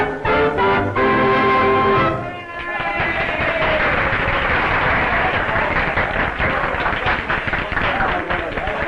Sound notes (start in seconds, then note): 2.4 applause